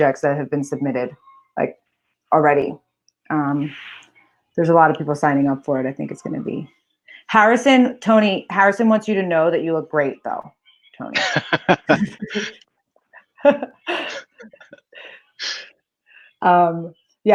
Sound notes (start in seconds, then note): 11.0 laughs; 13.1 chuckling